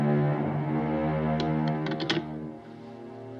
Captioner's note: phone hangs up